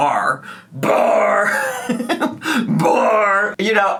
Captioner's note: laughs